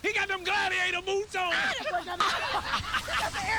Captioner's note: all laughing